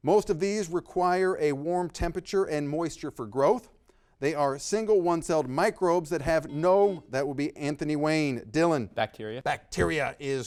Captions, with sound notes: Most of these require a warm temperature and moisture for growth. They are single one-celled microbes that have no- (buzzer beeping) That will be Anthony Wayne, Dylan. - Bacteria.